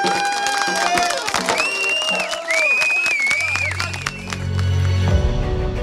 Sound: clapping and whistling

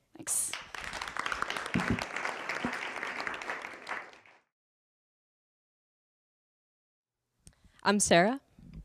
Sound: applause

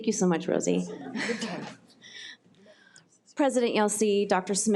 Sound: laughing

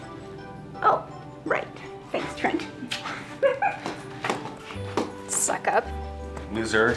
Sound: giggles

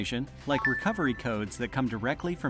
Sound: bell dings

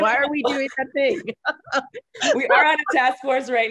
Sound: laughing heartily

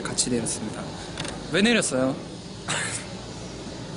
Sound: forced laugh

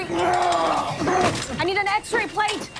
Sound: man groaning in pain

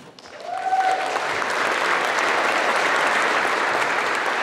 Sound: applause

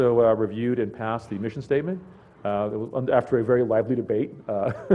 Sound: laugh

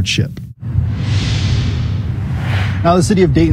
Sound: whooshing

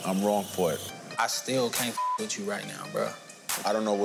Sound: beep

